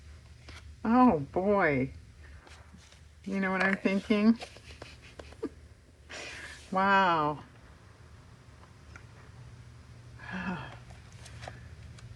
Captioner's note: laughs